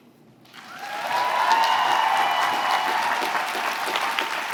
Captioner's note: applause